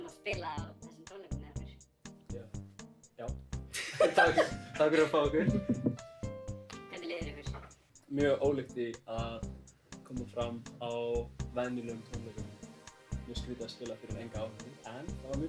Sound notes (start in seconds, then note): 3.7 haha